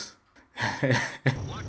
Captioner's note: laughs